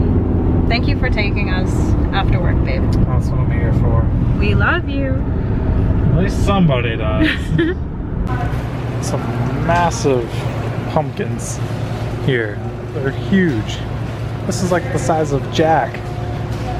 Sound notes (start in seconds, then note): 7.2 laughs